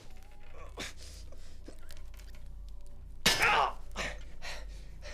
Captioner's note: Ryan groans and pants